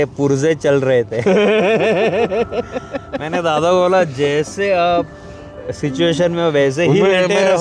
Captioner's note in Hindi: हंसी